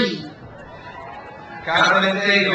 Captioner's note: crowd cheers